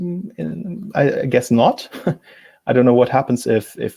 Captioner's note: chuckles